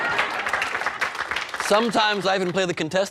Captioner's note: applause